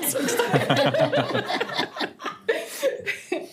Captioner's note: all laughing